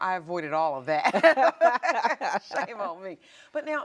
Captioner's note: both women laughing